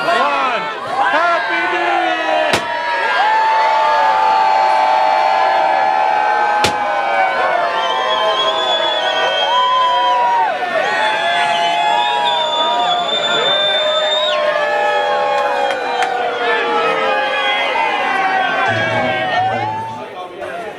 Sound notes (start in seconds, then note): 2.5 ballon bursting; 3.1 crowd cheering